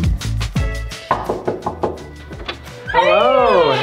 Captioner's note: upbeat music; knocking